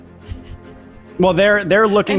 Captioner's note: chuckles